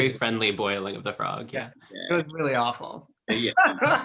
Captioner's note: laughs